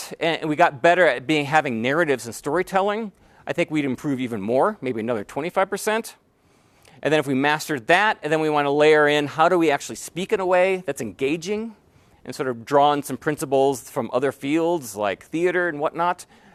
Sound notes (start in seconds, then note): none